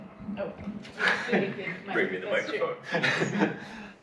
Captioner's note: laughs